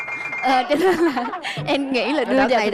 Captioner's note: the girl laughing